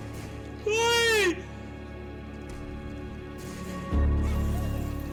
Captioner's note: screams